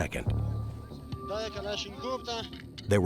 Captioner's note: speaking in foreign language